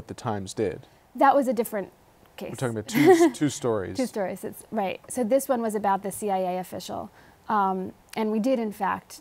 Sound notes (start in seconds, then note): 2.8 laughs